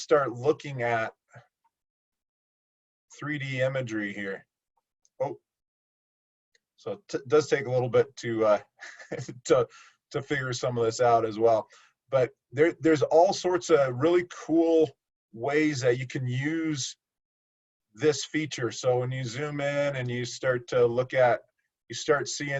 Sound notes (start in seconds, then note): 8.8 laughter